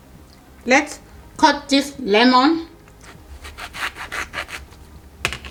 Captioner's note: knife grating